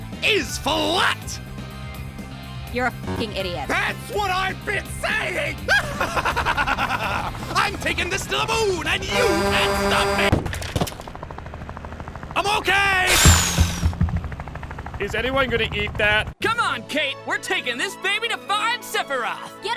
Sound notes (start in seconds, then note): 5.7 laughing; 9.1 incoming truck horn; 13.1 flesh slicing